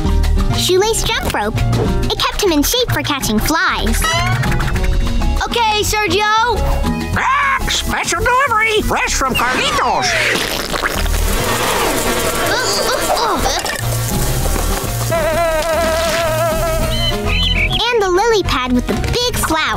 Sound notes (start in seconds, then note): 6.5 squawking; 10.4 buzzing; 12.3 groaning; 14.7 buzzing